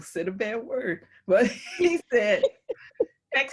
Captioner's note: laugh